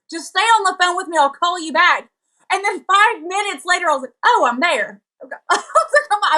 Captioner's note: laugh